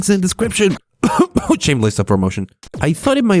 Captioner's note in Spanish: Tos tos